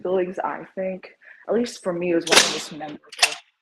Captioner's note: gate clanks